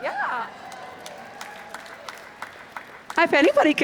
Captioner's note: applause